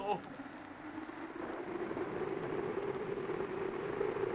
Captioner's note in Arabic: هبوب الريح